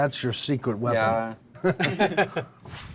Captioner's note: laughter